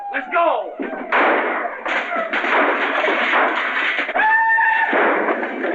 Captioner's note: gunshots and cheering